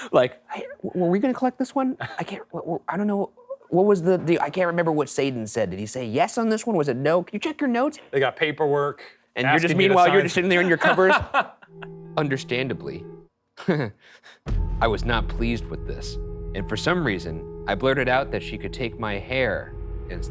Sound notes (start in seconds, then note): 10.1 laughing; 13.7 chuckling